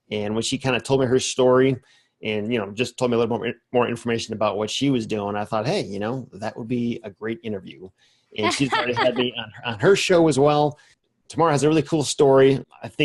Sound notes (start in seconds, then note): 8.4 laughs